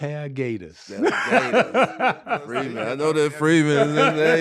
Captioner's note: laughing